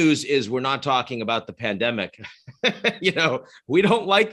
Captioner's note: chuckling